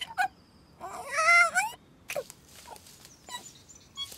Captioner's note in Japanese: なき声